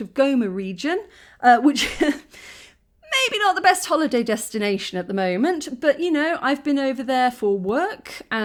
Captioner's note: laughin